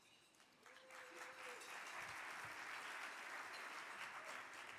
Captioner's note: audience clapping